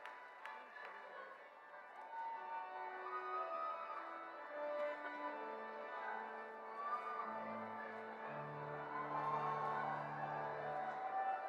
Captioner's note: cheers and Applause